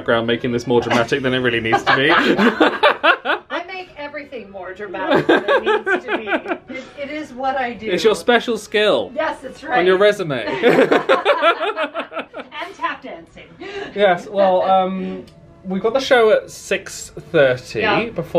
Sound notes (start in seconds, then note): 1.5 pair laughing; 10.5 pair laughing